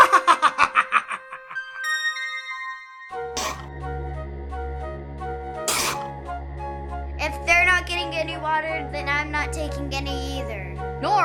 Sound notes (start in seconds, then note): 0.0 צוחק; 3.8 יריקה